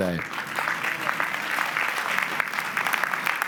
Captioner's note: applause